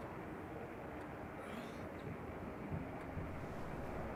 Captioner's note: wind howling